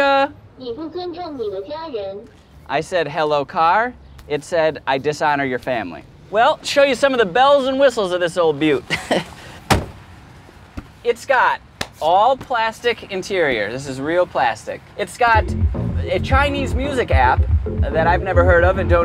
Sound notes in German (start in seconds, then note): 1.1 Auto spricht auf Mandarin